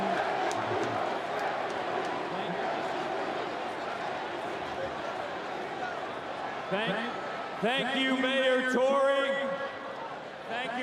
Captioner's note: cheering